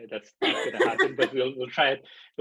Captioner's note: laughing